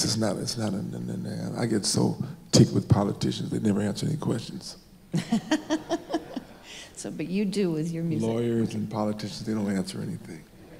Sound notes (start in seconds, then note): 5.2 laughs